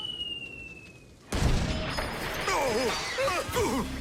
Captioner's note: explosion